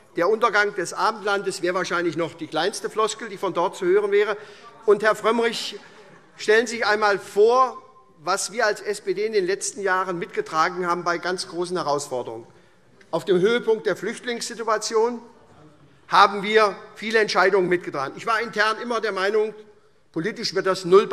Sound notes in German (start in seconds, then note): 5.6 Heiterkeit SPD